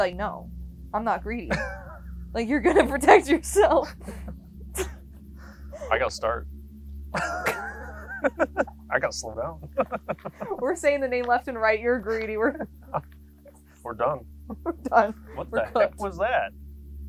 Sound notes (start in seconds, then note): 7.1 both laughing